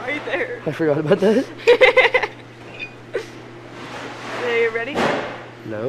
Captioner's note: laughs